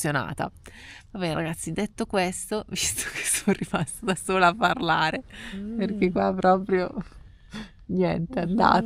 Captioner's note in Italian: risate